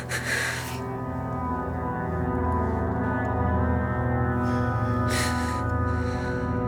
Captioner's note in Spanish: sollozos